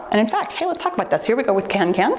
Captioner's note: timer beeps